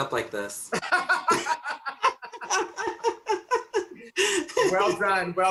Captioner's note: laughs